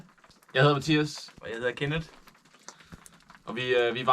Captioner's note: speaking Danish